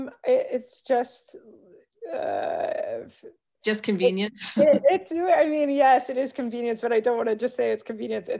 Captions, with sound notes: - It's just-- - Just convenience. (chuckles) I mean, yes it is convenience, but I don't wanna just say it's convenience,